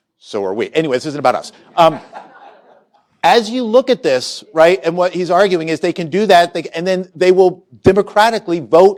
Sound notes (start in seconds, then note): 1.5 laughter